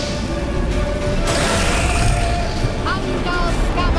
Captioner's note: flames whoosh; hound hisses; shouts incantation